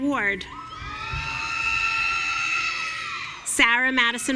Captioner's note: audience cheering